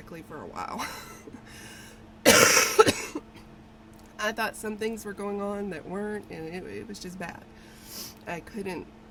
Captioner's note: coughs